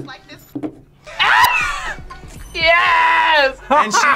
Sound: laughs

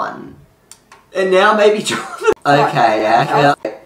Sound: laughing

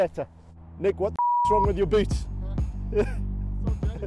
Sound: beep

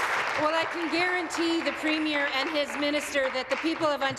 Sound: applause

